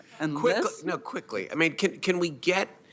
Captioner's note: laughter